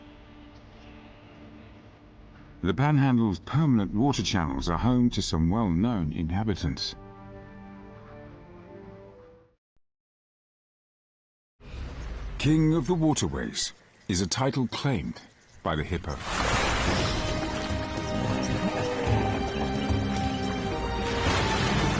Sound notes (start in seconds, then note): 0.1 dramatic music; 14.5 dramatic music; 16.4 hippo grunts; 16.7 dramatic music; 19.4 water splashing